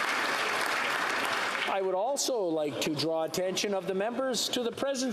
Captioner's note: applause